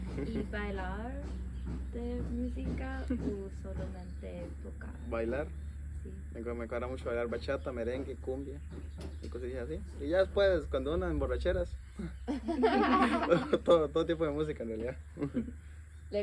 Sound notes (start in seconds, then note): 12.0 laughter